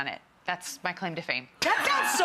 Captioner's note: laughs